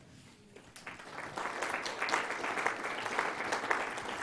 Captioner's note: applause